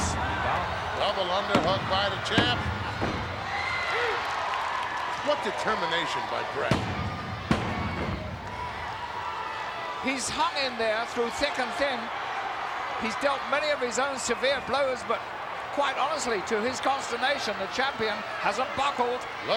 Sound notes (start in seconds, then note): 3.9 applause